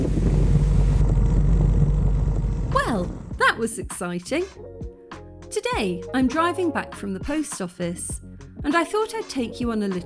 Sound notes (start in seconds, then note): 0.0 bike engine